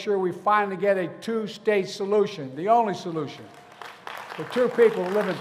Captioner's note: applause